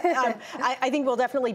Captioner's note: laughter